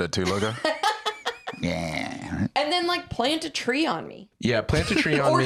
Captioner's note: laughs